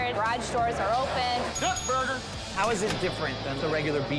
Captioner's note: bell dings